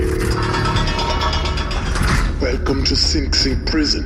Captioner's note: buzzer, gate clangs open